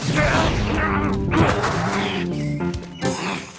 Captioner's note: grunting